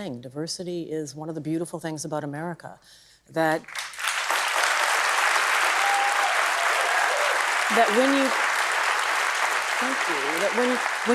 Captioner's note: applause